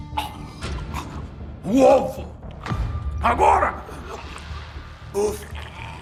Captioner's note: labored breathing